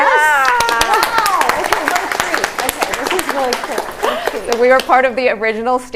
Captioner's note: audience applauding